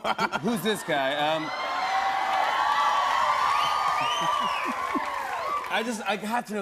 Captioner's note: cheers, whistling and applause